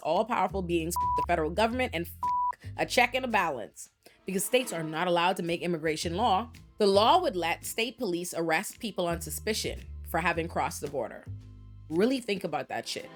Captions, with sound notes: all powerful beings (beep) the federal government and (beep) a check and a balance because states are not allowed to make immigration law. The law would let state police arrest people on suspicion for having crossed the border. Really think about that shit.